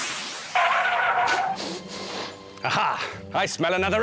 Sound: sniffing!

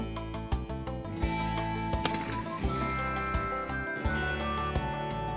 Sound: whistling

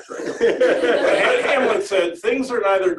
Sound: laughter

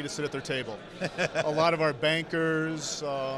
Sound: laughing

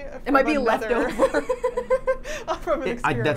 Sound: Carly and Safiya laughing

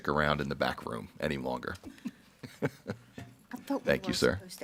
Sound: laughs

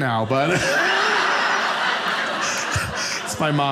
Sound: audience laughing

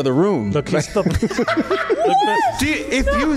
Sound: laughs

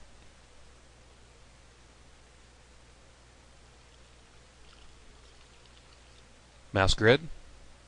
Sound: pause

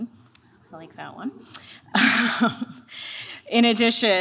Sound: chuckles

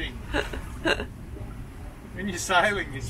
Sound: laughs

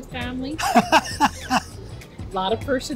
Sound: laughs

